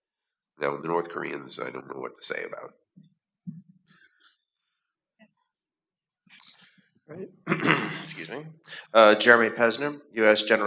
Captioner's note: cough